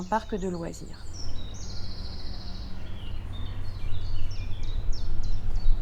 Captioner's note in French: bruits d'oiseaux